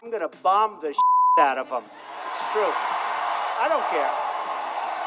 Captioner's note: beep; cheering